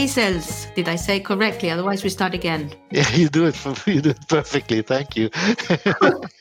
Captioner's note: laughs; both laugh